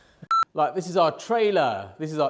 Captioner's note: audio beeping